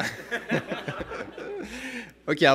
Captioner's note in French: rires